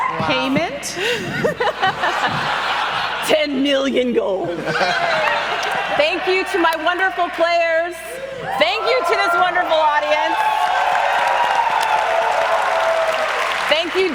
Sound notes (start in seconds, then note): 1.2 clapping and laughter continues; 5.0 cheering continues